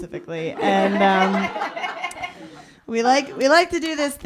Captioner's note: laughter